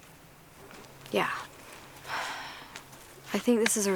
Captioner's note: exhales